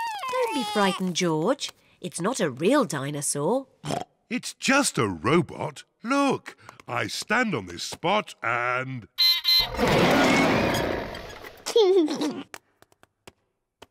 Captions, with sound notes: Don't be frightened, George. It's not a real dinosaur. (OINKS) It's just a robot. Look. I stand on this spot and... (BEEPS AND ROARS) (LAUGHS)